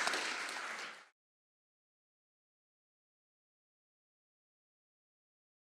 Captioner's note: applause